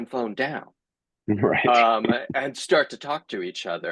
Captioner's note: chuckles